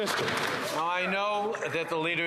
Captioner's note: some Applause